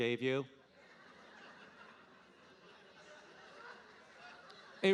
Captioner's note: audience laughing